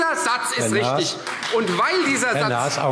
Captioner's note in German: Beifall Freie Demokraten